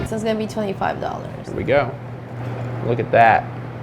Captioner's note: loud swallowing